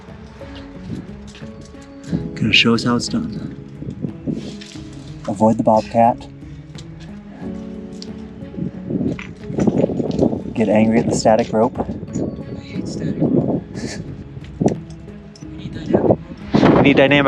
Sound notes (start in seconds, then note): 9.2 wind blowing; 13.8 chuckling